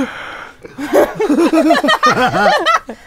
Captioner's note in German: Gelächter